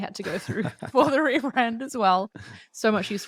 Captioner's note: both laughing